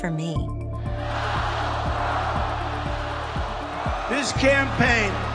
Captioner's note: chanting